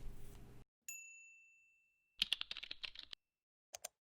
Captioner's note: bell dings